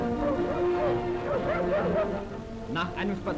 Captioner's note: dog: Wuff Wuff, Wuff